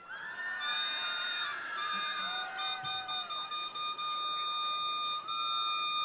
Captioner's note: attendees cheering; attendees applauding